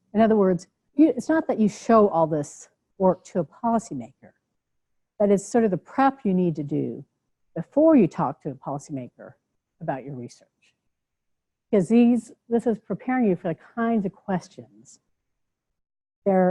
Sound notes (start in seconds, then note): none